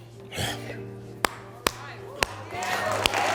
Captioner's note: sighs; audience applauding